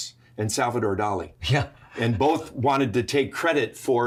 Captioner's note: chuckles